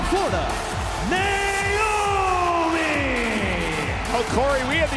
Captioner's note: crowd cheering